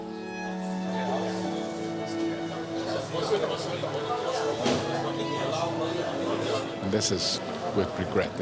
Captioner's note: all chatting